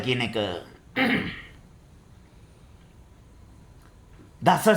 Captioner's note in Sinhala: උගුර කෑරීම